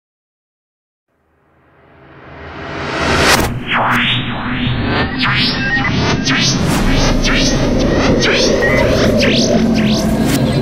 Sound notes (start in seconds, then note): 0.0 sound of science fiction